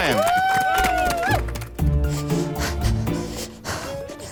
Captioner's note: riders cheering